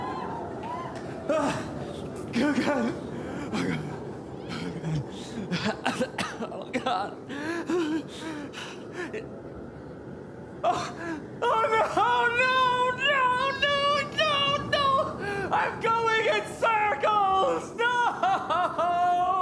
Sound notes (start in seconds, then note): 2.6 groaning Freezing Noise; 5.7 more moaning noise